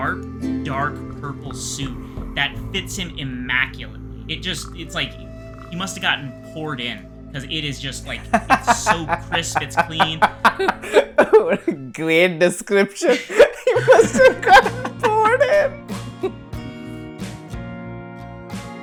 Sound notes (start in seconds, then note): 12.9 laughs; 16.2 laughter